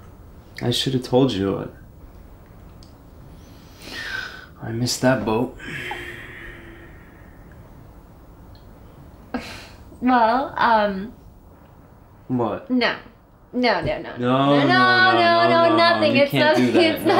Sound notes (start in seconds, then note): 3.4 karl takes a deep breath; 5.5 karl sighs